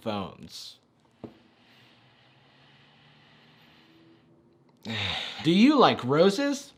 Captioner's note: deep inhale and exhale